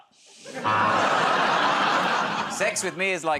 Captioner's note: laughter, buzzer